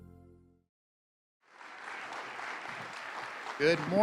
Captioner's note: clapping